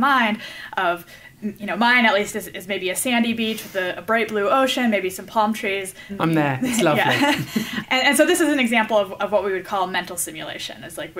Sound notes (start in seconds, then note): 6.9 laughs